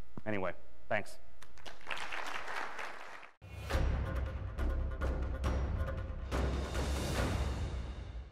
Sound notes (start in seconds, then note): 1.5 audience applauds; 3.5 suspenseful music